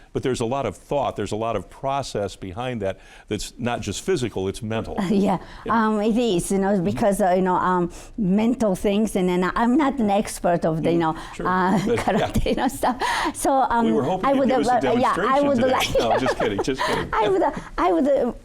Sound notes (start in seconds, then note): 14.0 laughing